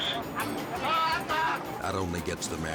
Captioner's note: captor speaks in foreign language